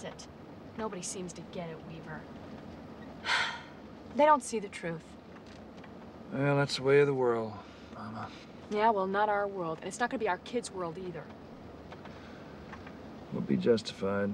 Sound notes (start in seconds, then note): 3.2 sighing